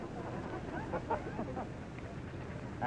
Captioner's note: crowd chattering, laughing